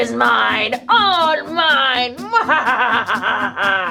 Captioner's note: laughs